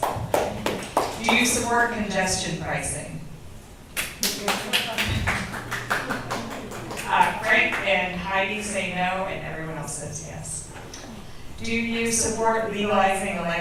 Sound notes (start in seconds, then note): 0.0 audience member claps; 5.4 audience members clap